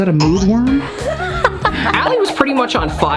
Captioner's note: laughing